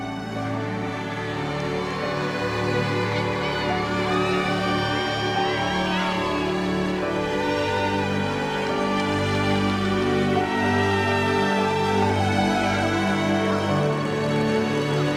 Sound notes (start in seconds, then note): 2.9 cheering; 8.7 slow dramatic music